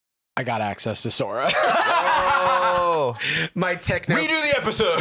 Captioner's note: laughs